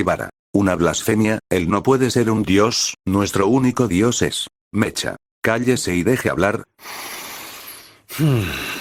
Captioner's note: breath_01